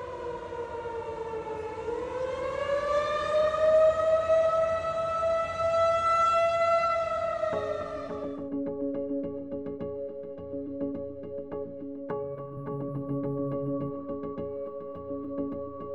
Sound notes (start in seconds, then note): 1.7 siren blaring continues; 7.5 suspenseful music